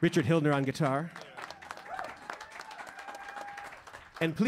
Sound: saludos y aplausos; cheers and applause

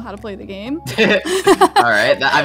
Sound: laughs

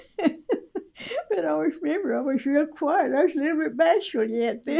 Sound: laughter

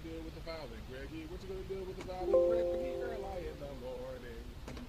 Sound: Windows error sound

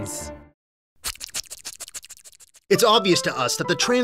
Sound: wet, squishy sounds

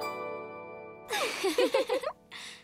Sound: giggling

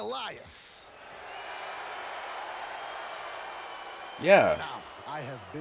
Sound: applause

